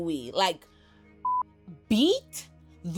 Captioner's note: beep